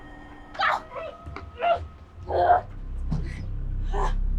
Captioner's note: grunts